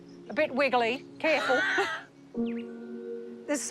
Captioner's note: laughs